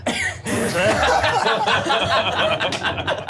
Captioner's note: laughing